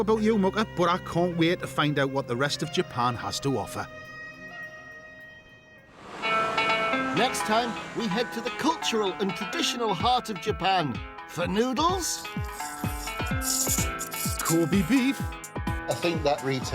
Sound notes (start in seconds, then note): 12.4 both slurping